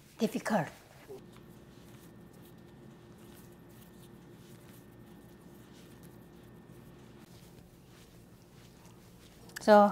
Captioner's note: soft kneading sound